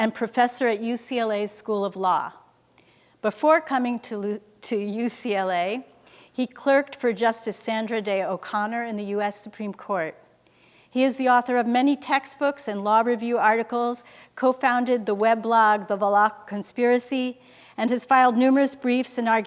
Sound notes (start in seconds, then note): none